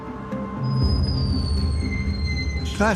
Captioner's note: door creaking